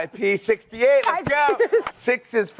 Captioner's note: presenter laughs